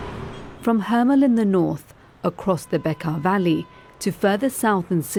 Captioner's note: horn honking